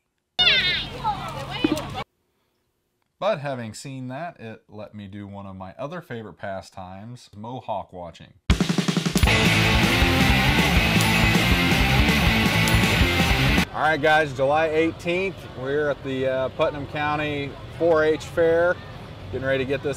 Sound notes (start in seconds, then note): 0.4 crazy lady warbles; 8.5 gentle bell dings with “mowhawk” title; 9.1 heavy metal music playing